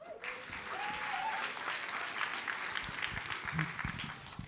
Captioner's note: audience applauds